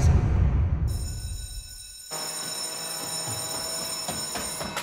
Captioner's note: school bell ringing